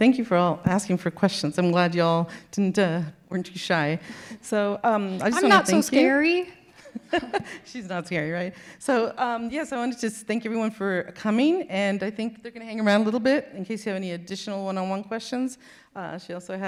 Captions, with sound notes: - Yeah. Well, thank you for all, asking for questions. I'm glad y'all didn't, uh, weren't too shy, so... - I'm not so scary. - (laughing) She's not scary, right? So, yes, I wanted to just thank everyone for coming and I think they're gonna hang around a little bit in case you have any additional one-on-one questions.